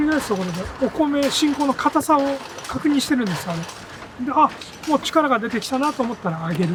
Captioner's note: continues speaking in a foreign language